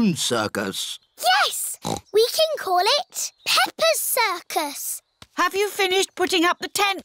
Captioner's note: snorts